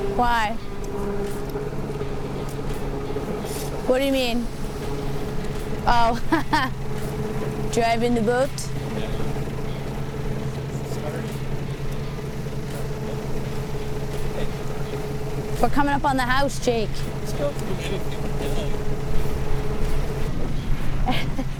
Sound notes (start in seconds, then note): 5.7 laughs; 10.8 boat engine roaring